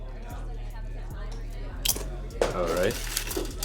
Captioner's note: people chattering